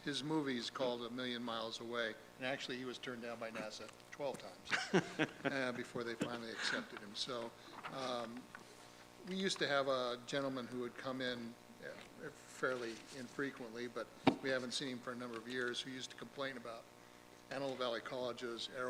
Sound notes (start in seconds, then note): 6.2 chuckle